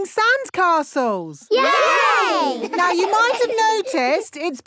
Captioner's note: laughing